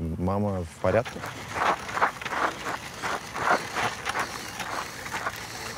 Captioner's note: scooter riding